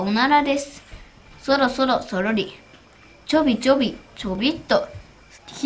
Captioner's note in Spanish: sonido de caminar despacito